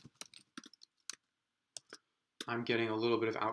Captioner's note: keyboard clicks